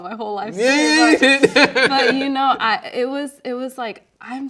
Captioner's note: laughing